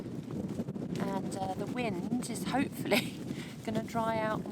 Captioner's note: giggle